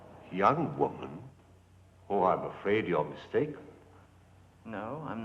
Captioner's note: none